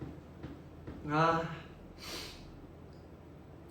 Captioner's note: sniffles